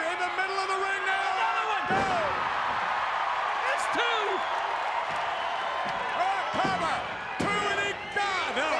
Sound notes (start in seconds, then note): 2.8 crowd cheering